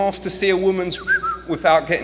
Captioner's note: whistles